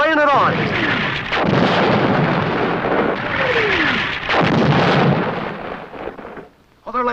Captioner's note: explosion